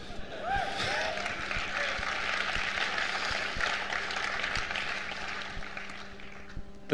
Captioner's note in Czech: potlesk